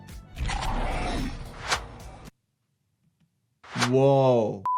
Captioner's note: creature groans; eyeballs squish